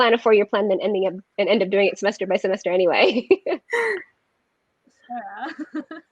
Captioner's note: laughs